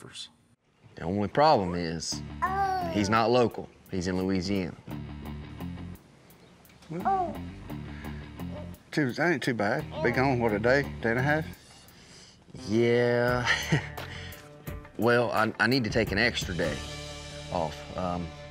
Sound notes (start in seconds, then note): 13.3 chuckles